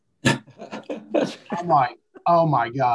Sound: group chuckling

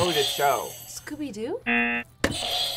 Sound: buzzer rings

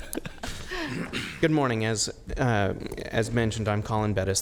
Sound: laughter

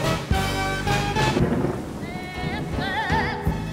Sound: light thunder

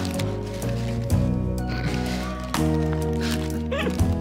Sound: laughter

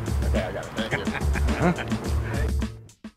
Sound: laughter

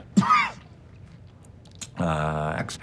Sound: Donnie coughs

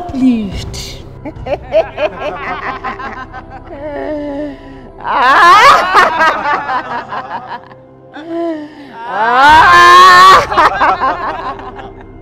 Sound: devilish Laughter

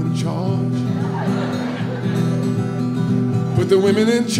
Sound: audience laughing

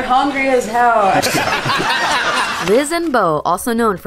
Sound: audience laughing; laughing

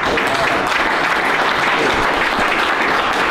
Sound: applause

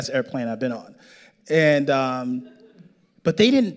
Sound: audience laughing

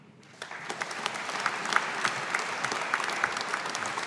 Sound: audience applauding

